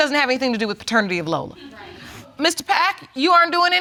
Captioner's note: audience chuckle